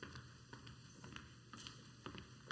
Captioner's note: footsteps walking on stage